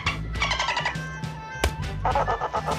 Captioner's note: thud!